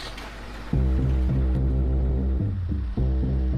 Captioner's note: engine starts